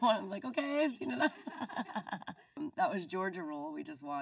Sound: Lindsay laughing

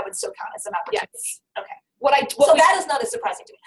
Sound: voiceover

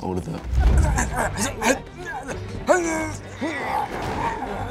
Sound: Louis grunts and groans

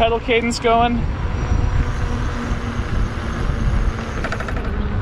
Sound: bike motor revving

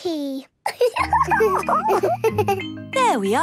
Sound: giggles

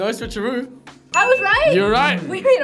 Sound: bell dings

